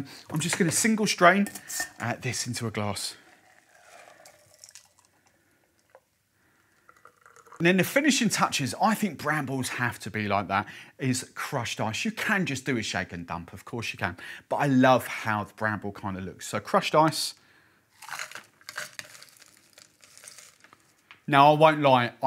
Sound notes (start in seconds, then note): 4.5 pouring liquid; 18.0 ice tumbling